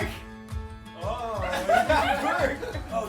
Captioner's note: giggles